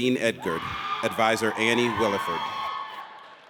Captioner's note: audience cheers